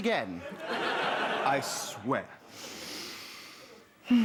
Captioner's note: sighing